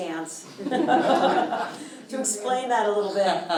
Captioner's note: audience chuckling